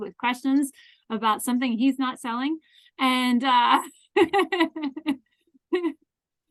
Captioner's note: laughs